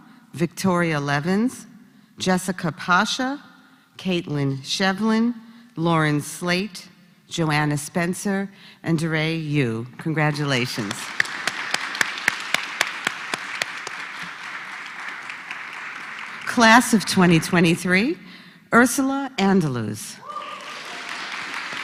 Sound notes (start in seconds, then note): 12.2 applause; 20.4 applause